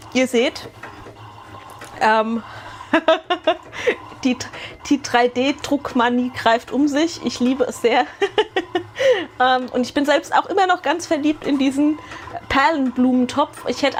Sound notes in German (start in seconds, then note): 2.9 gelächter; 8.0 gelächter